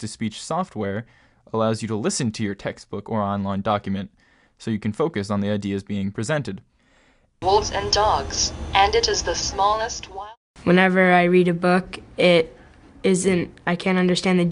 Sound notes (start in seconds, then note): 6.1 voice Synthesizer